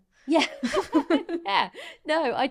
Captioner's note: both laughing